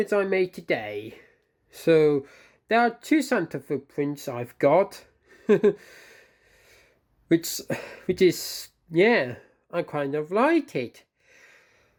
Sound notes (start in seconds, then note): 5.4 chuckles